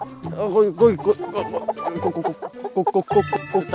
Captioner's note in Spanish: Fácil lo hace balbuceando